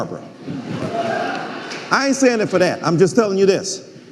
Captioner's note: some audience members cheering